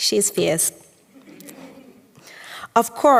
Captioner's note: audience chuckels